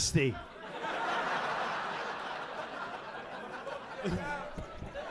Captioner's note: audience laughing